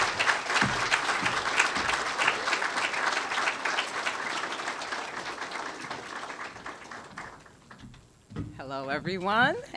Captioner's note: applause